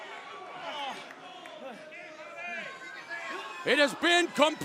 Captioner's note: crowd chatter